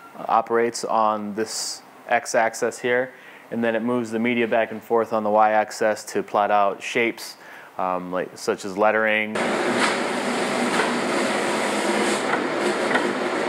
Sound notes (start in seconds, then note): 9.3 machine humming